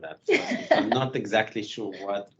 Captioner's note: laughing